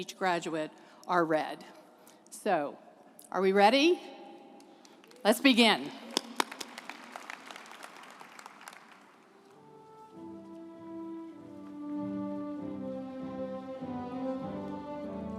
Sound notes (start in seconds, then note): 5.8 group applauding; 12.7 gentle music